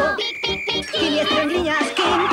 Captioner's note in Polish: Pik, pik, pik